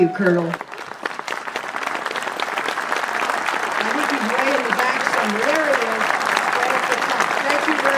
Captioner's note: applause